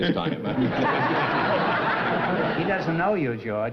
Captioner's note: laughter